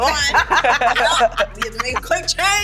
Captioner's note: laughter